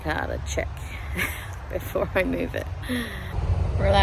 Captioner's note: wry chuckle